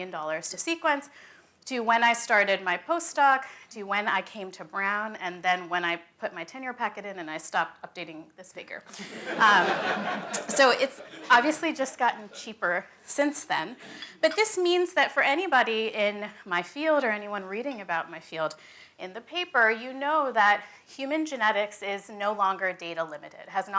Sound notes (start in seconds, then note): 8.9 laughter